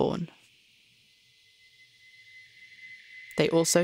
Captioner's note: high hissing tone fades in